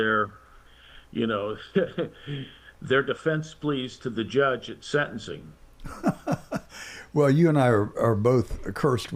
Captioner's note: laughs